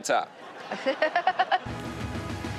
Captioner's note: Chanel and audience laughing; chuckles; upbeat music